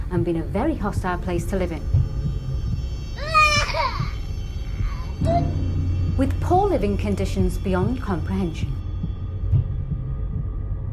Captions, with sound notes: and been a very hostile place to live in, (baby crying) With poor living conditions beyond comprehension.